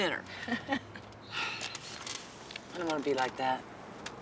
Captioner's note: Lori laughs